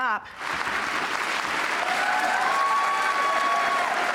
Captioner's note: applause